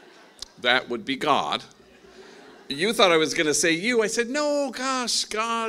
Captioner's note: laughing